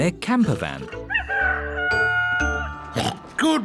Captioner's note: daddy pig oinks; rooster crowing